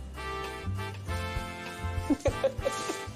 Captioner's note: Andie laughs